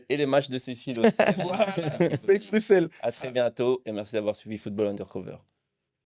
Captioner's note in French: rires